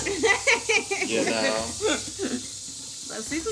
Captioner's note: laughs